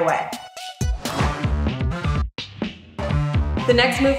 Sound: energetic electronic music; swoosh

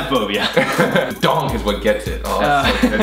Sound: laughs

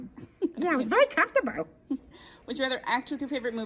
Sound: laughs

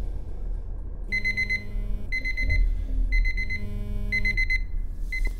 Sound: phone alarm blares

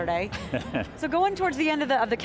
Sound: laughing

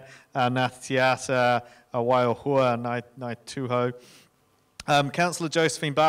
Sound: speaking in foreign language

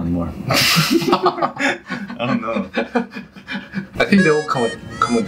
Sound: laughing

